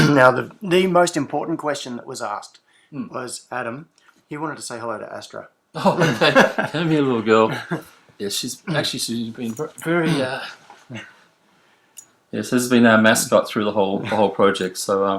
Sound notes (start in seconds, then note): 5.8 laughs